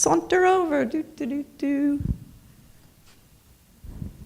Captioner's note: humming